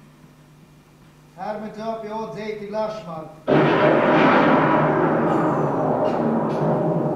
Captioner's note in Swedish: kabamm!